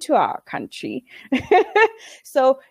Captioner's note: laughing